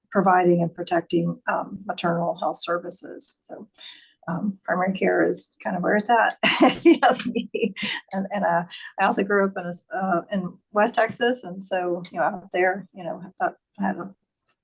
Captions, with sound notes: providing and protecting maternal health services. So primary care is kind of where it's at [laughing]. And I also grew up in West Texas, and so out there, I had